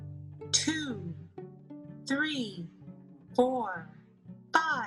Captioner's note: automated Voice